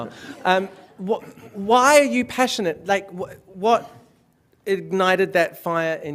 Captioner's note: laughter